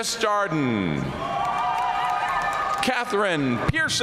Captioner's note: audience cheering and applauding